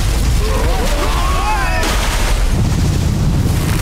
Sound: screaming

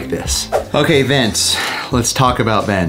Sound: screen swooshes

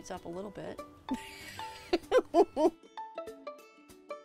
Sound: laughs; bright music

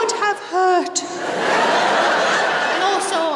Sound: laughter

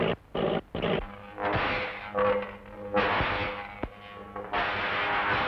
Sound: electricity zapping

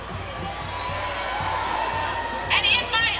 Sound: crowd cheers

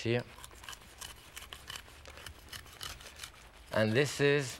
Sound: sawing

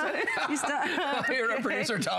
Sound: laughter

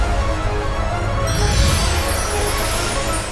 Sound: sparkling

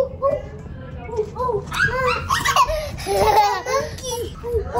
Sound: laughing

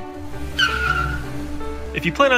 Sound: tires screeching

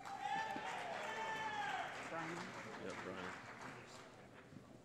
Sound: cheering

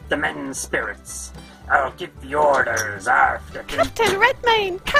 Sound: door opens and closes

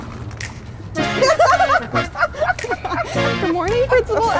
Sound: both laughing

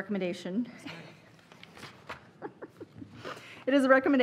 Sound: laughing

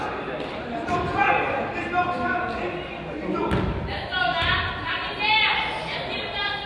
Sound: crowd chatters; coach yells

